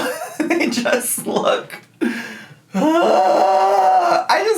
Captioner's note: groans